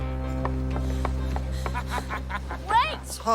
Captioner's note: panting; laughs